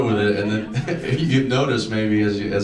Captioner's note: laughs